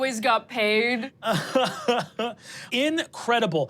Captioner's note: laughs